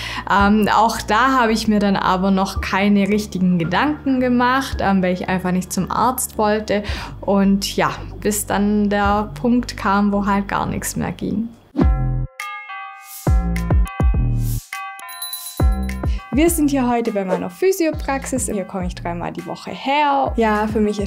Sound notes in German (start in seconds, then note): 12.9 Dynamische Musik; 15.1 Klingeln